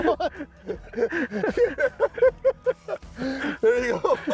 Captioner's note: laughing